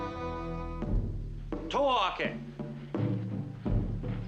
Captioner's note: speaking japanese